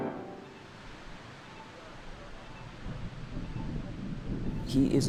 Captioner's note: crossing signal beeping